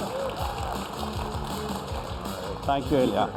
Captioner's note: applause